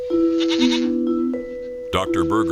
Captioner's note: goat bleating